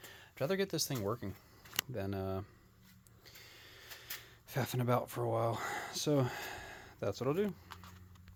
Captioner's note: sighs